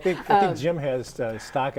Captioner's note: laughing